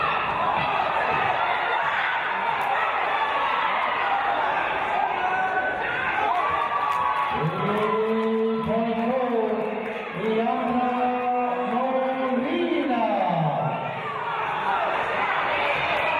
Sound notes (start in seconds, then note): 6.4 cheers from audience